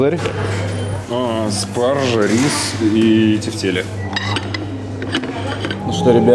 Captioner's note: sarcasm